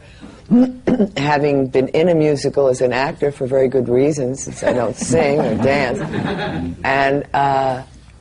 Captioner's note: laughter